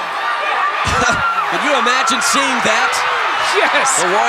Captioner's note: audience cheering; chuckling